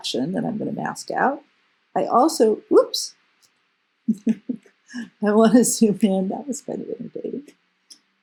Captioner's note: laugh